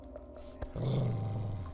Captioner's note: dog growls